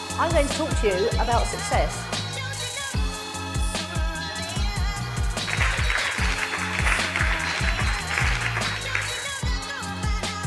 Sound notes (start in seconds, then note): 5.4 audience applauds